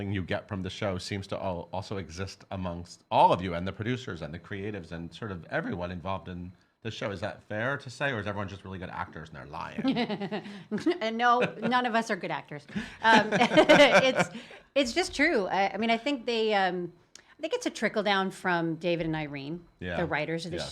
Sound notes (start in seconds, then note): 9.8 laughing